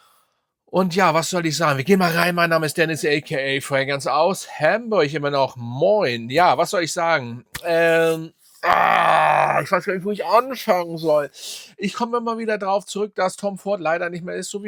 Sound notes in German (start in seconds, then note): 8.6 schreien; 8.6 stöhnen